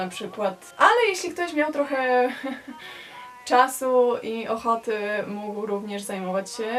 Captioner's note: awkward giggle